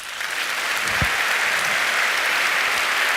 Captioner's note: applause